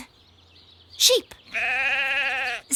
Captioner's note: sheep bleating